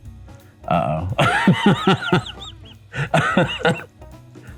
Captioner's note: laughing